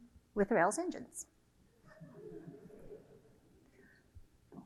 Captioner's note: audience laughter